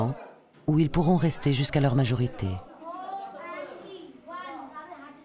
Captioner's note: Indian spoken audio